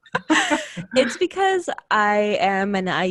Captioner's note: laughing